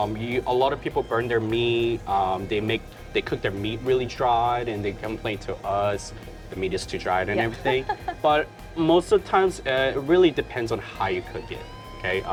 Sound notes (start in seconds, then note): 7.2 laughs